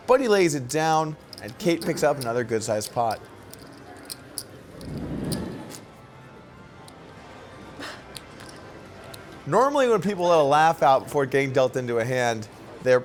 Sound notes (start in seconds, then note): 4.7 soft wooshing; 6.6 soft laughter